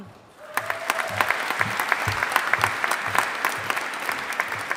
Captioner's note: audience applauding